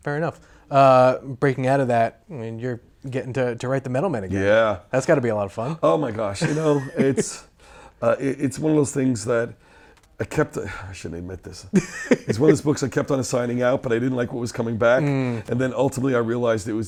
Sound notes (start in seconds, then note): 6.4 laughs; 11.7 laughs